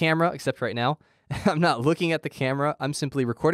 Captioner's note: chuckle